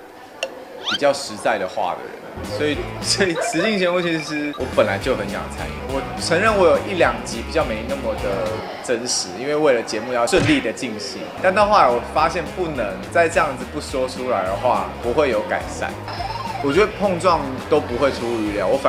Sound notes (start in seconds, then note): 2.4 giggling